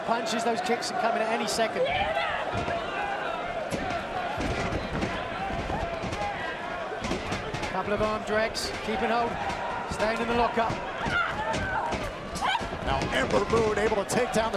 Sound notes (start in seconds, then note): 3.3 crowd chatter